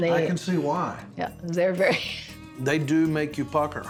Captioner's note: chuckles